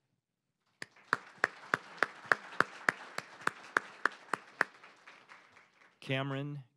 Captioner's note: applause